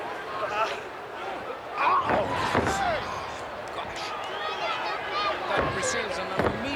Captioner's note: body thudding